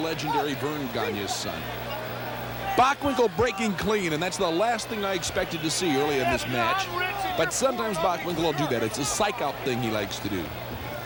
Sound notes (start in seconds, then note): none